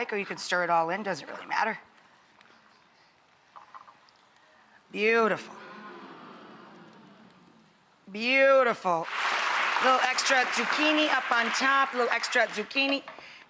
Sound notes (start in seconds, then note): 9.0 clapping